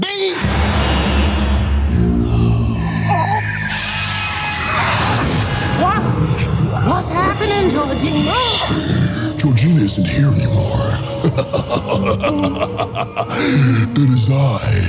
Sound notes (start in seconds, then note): 0.3 suspenseful music; 1.9 guttural groaning; 3.7 air whooshing; 10.1 evil laughing